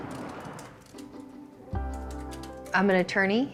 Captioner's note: keyboard keys clacking